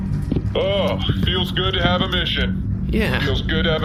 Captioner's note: intro music; excited